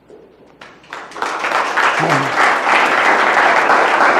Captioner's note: audience applause